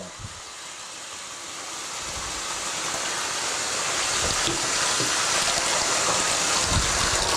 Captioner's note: splashing